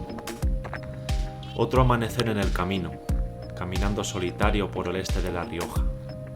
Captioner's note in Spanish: Voz en off